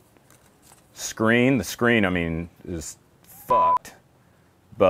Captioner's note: beep